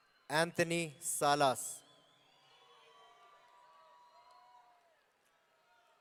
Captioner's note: audience cheering